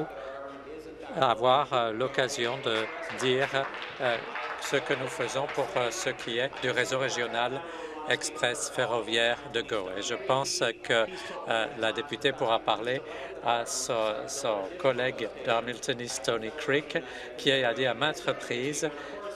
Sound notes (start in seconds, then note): 7.2 applause